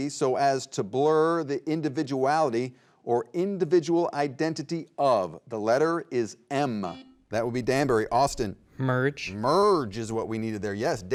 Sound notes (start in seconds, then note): 6.9 button beeping